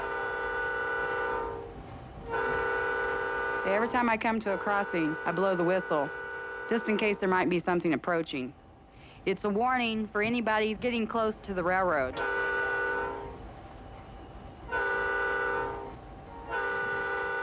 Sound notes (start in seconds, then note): 0.0 train whistle blaring; 12.3 train whistle blaring